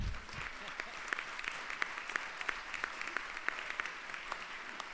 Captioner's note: applause